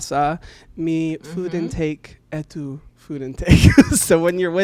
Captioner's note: laughs